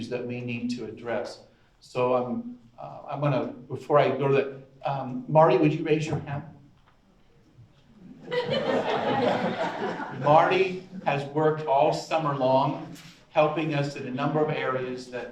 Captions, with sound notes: that we need to address. So I'm gonna, before I go to, Marty, would you raise your hand? (audience laughs) Marty has worked all summer long, helping us in a number of areas